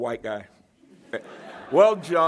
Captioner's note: laughter